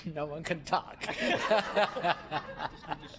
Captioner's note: laughter